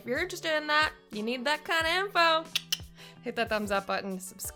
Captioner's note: clicks tongue